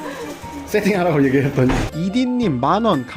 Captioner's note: counting in English